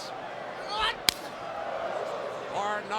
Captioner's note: hand smacking